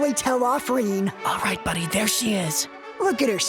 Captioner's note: whisper